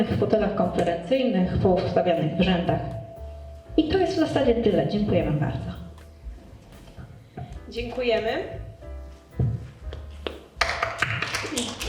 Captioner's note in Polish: Aplauz